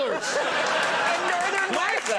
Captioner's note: audience laughs